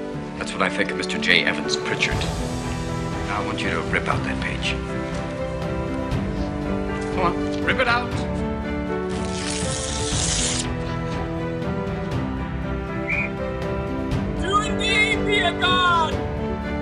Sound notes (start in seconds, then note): 9.0 paper tearing; 13.0 whistle